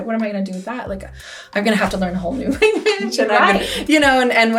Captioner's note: laughs